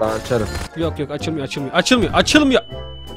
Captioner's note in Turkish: Bağırarak